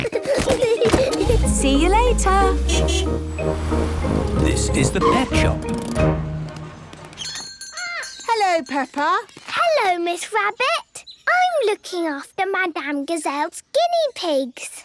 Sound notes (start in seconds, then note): 0.0 kids giggling; 1.2 honking; 7.1 bell jingling